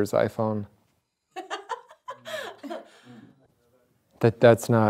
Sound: Judith laughs

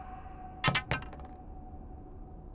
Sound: clunk

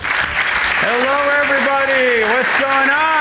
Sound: upbeat orchestral music; audience applauding

